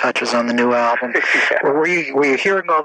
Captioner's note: laughs